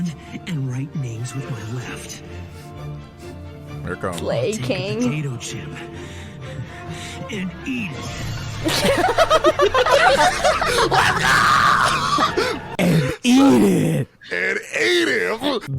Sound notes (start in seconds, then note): 2.8 ominous music; 8.6 everyone laughing